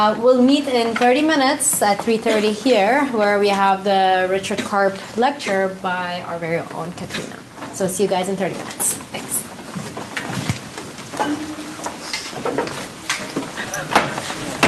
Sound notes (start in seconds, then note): 13.2 background chatter